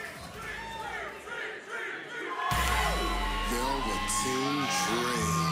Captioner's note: fans chanting